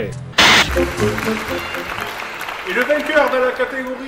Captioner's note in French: Applaudissements